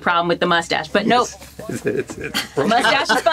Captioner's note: all laugh